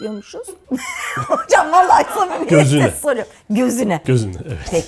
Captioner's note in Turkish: kahkaha